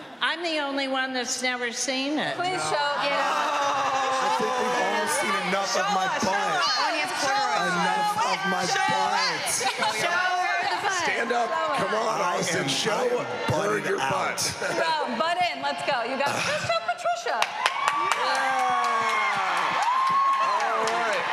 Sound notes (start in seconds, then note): 9.5 overlapping chatter; 17.2 cheering and applause